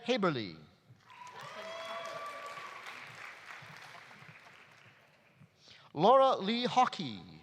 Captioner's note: audience applauding; audience cheering